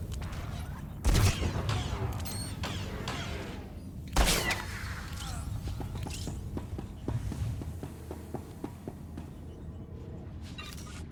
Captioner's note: gunfire